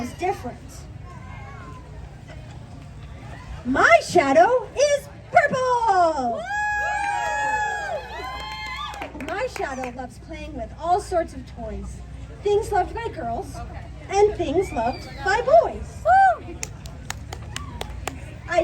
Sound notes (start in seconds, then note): 5.5 applause